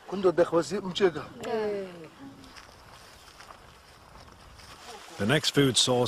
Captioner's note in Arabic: التحدث بلغة أجنبية